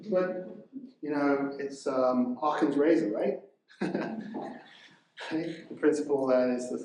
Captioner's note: chuckles